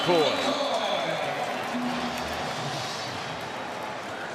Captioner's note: pa announcement